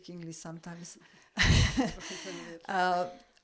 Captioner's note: laugh